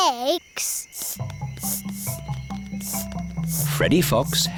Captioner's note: sniffing